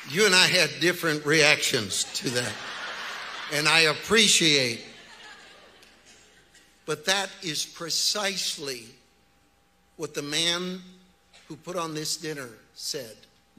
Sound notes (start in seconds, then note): 1.8 audience laughs